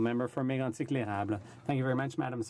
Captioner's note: speaking French